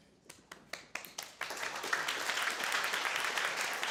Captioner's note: audience clapping